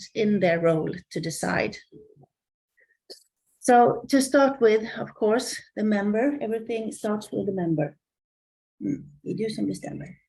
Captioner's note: Swedish